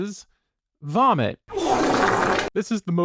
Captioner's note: flappy vomit sound